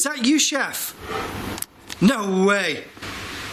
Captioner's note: squeaking